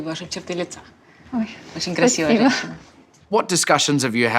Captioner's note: speaks ukrainian